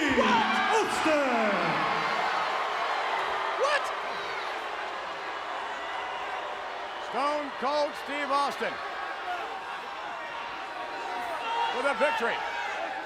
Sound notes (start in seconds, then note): 1.7 audience cheers